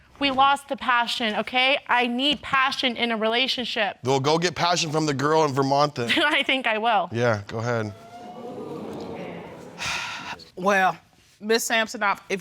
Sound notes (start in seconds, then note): 7.6 audience exclaiming; 9.6 exhales